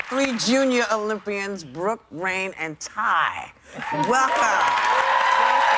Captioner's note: cheers and applause